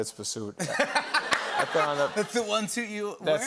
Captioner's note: laughter